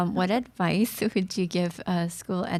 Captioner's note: none